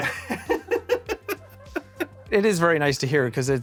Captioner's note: laughs